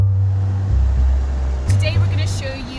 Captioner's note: bus engine revving